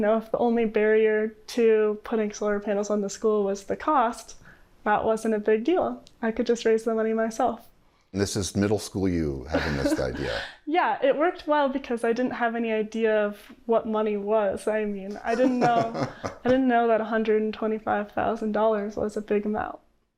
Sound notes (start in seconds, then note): 9.5 laughter